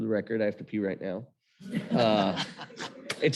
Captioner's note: chuckles